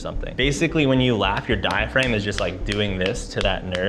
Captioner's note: clapping